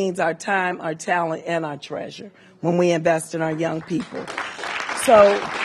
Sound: applause

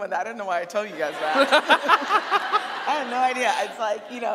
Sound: audience laughing; laughing

